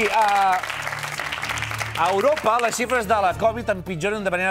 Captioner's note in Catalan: aplaudiments